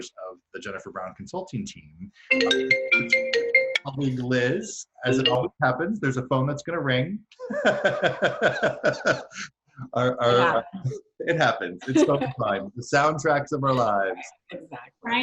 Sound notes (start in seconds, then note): 2.3 ringtone drowns out; 7.4 laughs